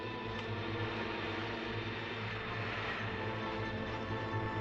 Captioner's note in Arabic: هدير محرك السيارة